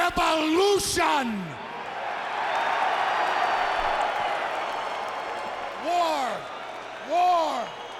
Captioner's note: applause